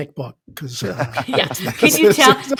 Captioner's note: chuckling